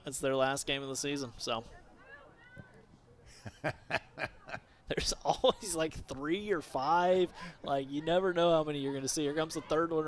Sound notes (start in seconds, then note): 3.3 laughter